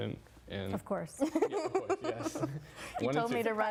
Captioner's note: laughing